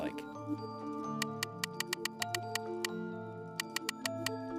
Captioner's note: ticking sound